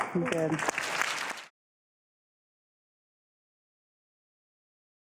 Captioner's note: audience clapping